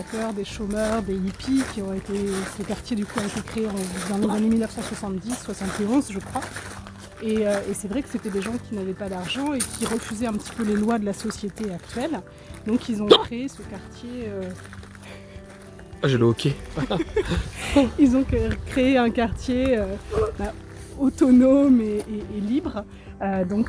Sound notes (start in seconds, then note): 13.0 hiccups